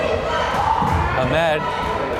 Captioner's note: crowd chanting defense